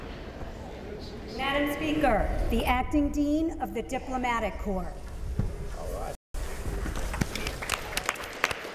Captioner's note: gavel